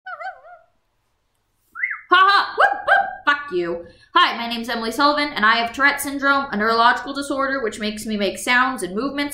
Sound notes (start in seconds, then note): 2.5 haha whoop